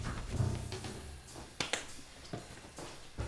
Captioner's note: shower starts